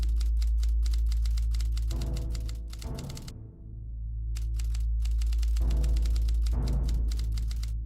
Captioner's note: typewriter clattering; drums playing